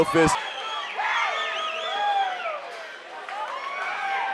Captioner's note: crowd cheering